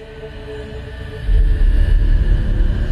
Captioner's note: eerie Whispering